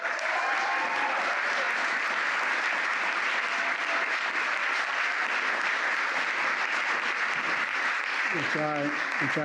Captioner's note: applause